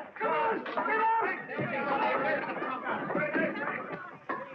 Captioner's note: people clamoring